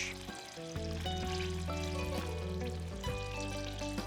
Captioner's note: bubbling